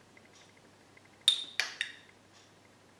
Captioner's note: spoon clinks against ramekin